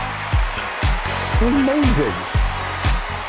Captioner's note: cheering